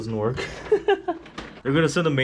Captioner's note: laughs